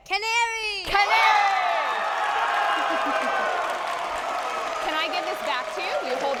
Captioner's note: audience applauding